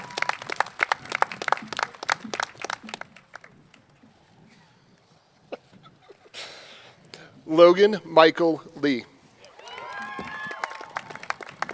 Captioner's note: cheers and applause